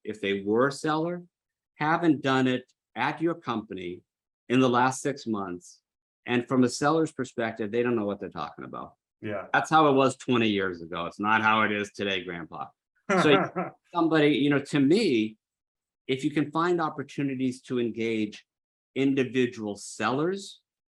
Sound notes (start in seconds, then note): 13.1 laughs